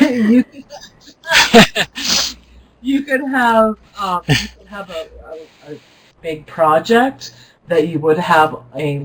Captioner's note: laughs